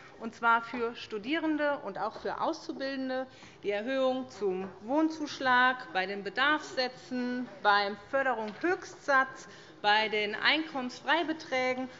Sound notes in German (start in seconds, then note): none